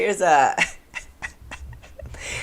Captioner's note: laughter